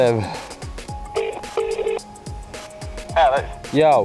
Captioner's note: dial tone